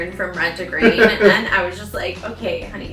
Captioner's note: laughs